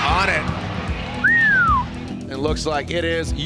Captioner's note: announcer whistles